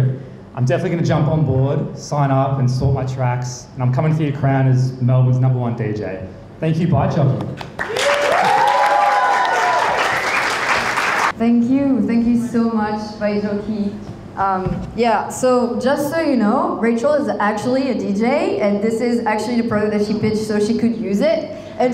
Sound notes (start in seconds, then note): 7.6 crowd applauding; 7.7 crowd cheering